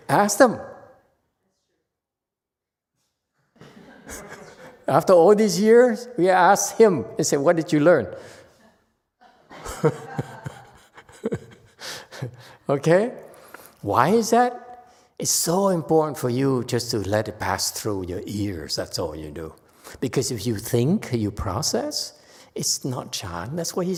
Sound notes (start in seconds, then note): 9.3 audience laughs, laughs